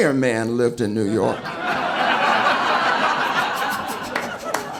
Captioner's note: audience laughing